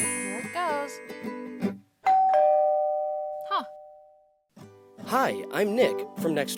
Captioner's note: doorbell